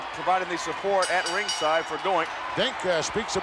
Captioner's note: ring bell clanging